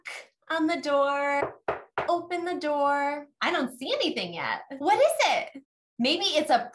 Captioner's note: knock, Knock